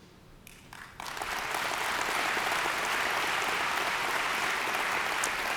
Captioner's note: audience applauds